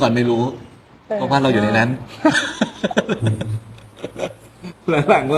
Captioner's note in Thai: เสียงหัวเราะ